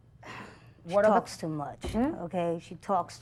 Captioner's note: sighs